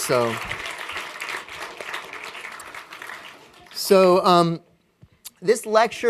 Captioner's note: applause